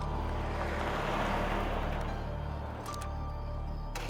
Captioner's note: traffic rumbling